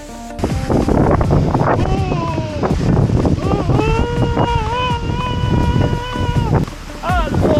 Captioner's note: screaming due to the water being ice cold